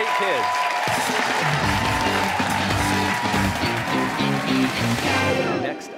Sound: cheers and applause

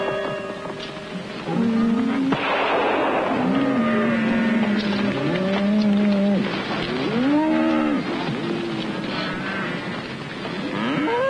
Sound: gunfire and cattle mooing

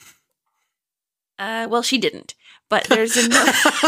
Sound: laughing

